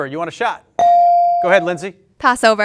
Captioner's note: bell ring